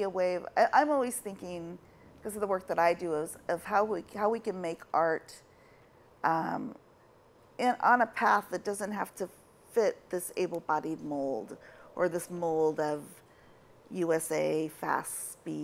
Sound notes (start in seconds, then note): none